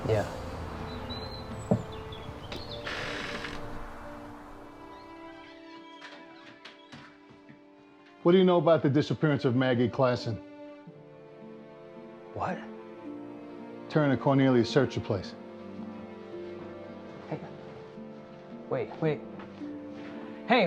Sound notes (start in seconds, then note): 0.0 birds chirping; 4.1 gentle music